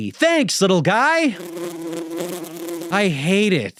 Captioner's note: flies buzzing